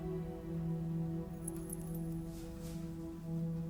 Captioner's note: necklace jingles